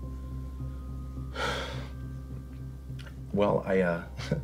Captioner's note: sighs